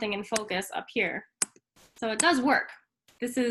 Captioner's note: keyboard clanking